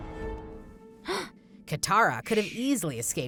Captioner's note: gasping